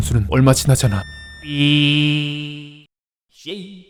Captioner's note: beeeeee